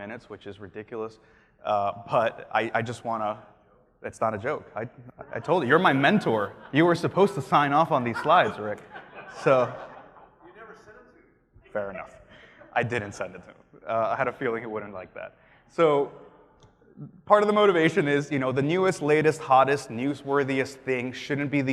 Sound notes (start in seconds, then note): 10.0 laughs